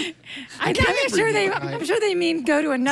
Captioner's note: laughs